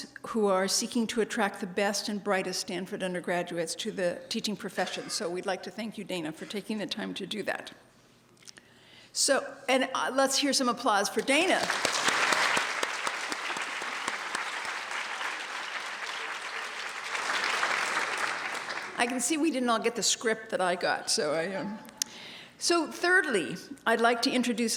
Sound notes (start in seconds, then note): 14.7 applause